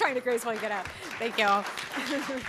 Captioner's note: applause